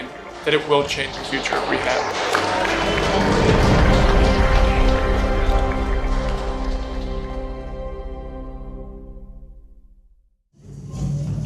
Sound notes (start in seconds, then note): 2.0 clapping; 3.3 triumphant music swells